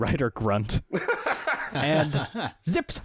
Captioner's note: general laughter